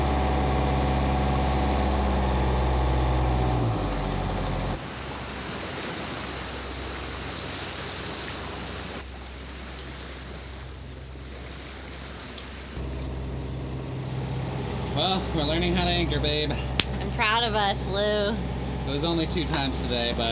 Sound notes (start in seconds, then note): 5.4 water rushing; 13.3 engine purring